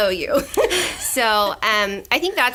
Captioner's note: laughter